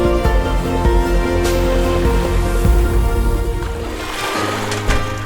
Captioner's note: water splash sounds